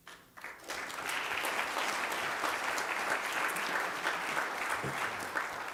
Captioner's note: applause